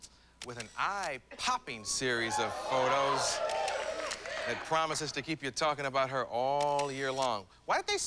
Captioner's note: applause